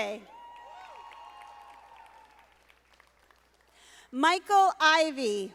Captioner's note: audience applauding